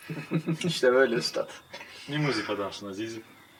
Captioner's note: laughs